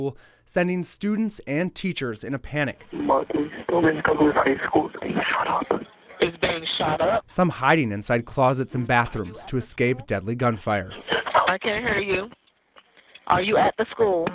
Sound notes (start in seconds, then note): 2.9 nats of 911 calls